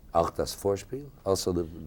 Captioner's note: speaking a foreign language